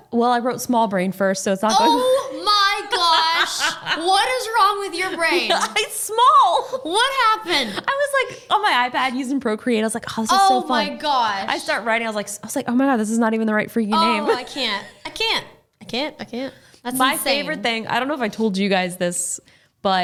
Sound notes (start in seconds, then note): 5.9 laughing; 13.9 laughing